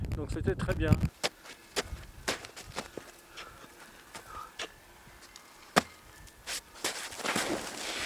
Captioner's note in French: bruits de chaussures qui tapent la neige